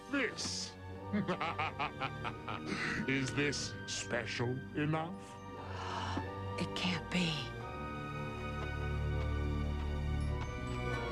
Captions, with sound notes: WHAT ABOUT THIS? MWA HA HA HA HA! IS THIS SPECIAL ENOUGH? [GASP] IT CAN'T BE.